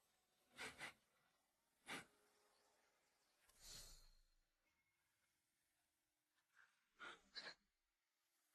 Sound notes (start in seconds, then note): 1.8 khịt mũi